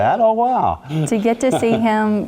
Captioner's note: laugh